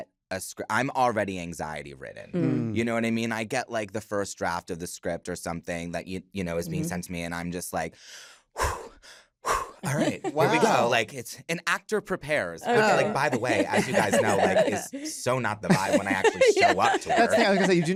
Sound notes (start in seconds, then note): 7.9 breathes deeply; 9.8 laughs; 13.0 laughter